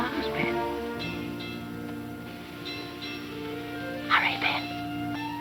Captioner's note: bell clanging